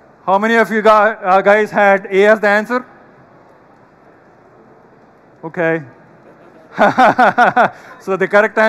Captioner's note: laughter